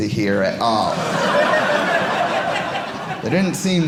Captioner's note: audience laughing